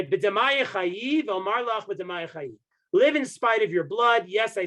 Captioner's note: speaking Hebrew